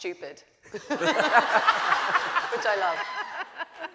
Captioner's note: audience laughing